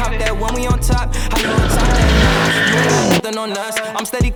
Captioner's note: car drifting noise with music playing in the background